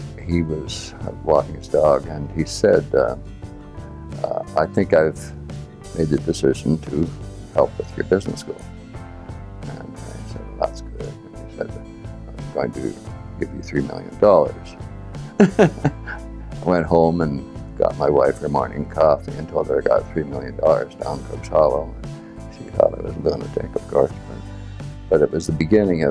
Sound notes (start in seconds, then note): 15.3 laughs